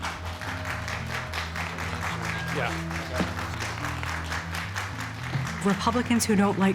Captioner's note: spectators applauding